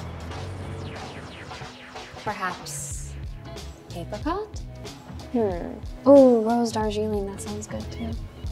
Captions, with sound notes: Perhaps. [speaks in French] Hmm. Ooh, Rose Darjeeling, that sounds good, too.